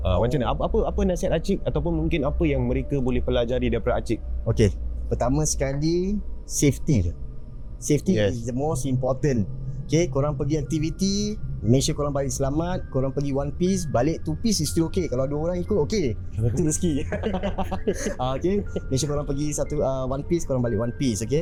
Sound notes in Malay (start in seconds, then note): 16.4 ketawa